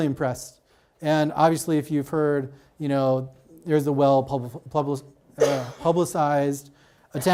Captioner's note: stutters